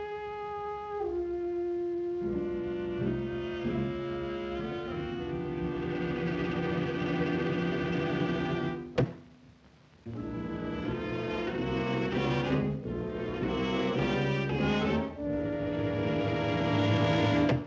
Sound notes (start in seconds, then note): 0.0 ominous dramatic music; 9.0 thunk; 10.0 suspenseful music; 17.5 thunk